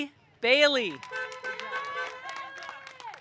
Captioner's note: audience cheering; car horn honking